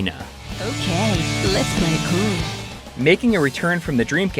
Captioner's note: game audio